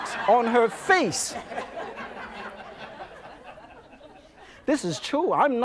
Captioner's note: audience laughs